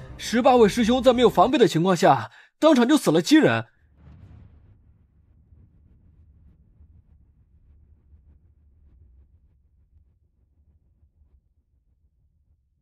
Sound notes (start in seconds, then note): 3.8 sound effect